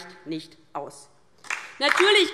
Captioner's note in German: Beifall DIE LINKE